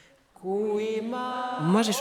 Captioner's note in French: paroles en dialecte d'Estonie